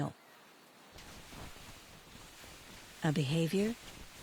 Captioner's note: wings flapping